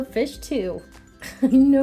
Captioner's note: laughing